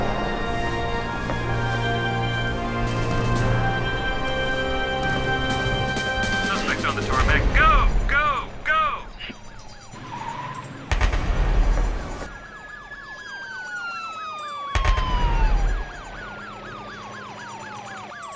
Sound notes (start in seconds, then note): 9.2 tires squealing; 9.5 sirens blaring; 12.7 sirens blaring